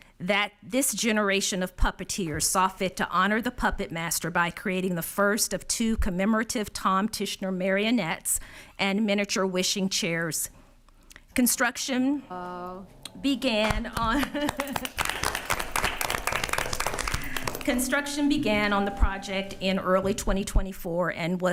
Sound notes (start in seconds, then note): 13.6 attendees applauding; 13.9 laughs